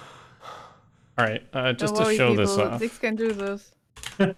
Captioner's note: nyeeah!